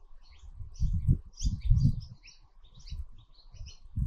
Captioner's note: birds chirping